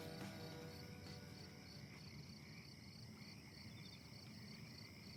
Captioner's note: crickets chirping